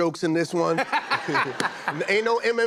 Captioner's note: laughter